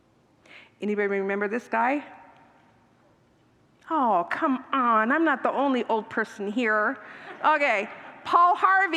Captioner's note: congregants laugh